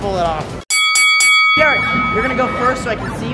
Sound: bell ringing

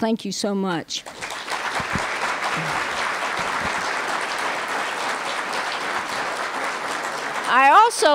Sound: applause

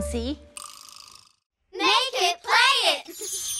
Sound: kids call out

